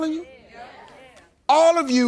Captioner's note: audience agreeing